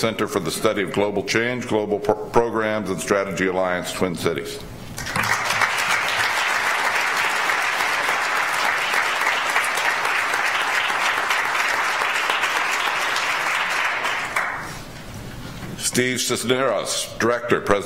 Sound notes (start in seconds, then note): 5.2 audience applauds